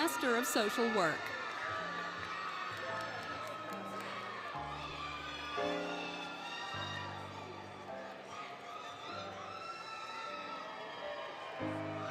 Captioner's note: applause, Cheering, Music